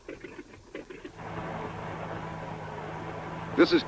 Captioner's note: wheels rattling; car engine revving; radio Announcer